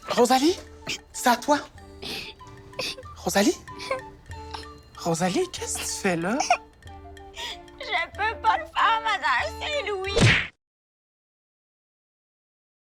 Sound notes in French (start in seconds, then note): 1.8 sanglots